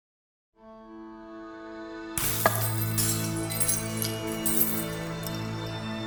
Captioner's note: glass tinkling; peaceful music begins; peaceful music fades